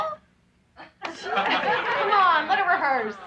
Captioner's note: laughing